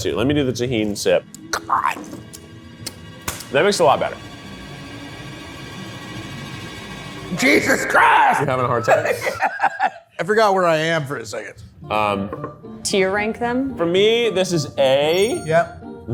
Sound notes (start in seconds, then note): 2.3 pensive music; 9.5 laughs